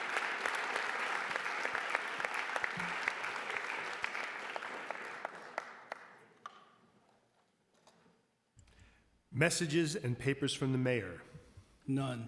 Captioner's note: applause